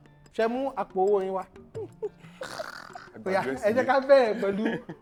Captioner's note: laughs